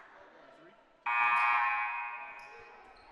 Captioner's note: buzzer